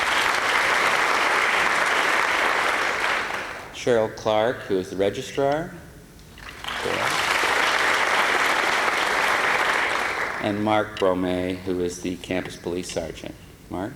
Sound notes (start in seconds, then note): 0.0 applause; 6.5 applause